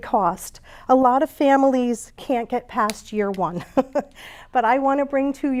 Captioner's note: chuckles